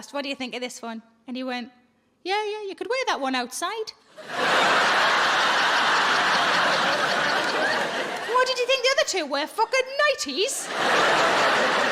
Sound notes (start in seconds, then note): 4.2 audience laughing